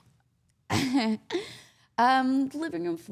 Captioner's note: Liv laughing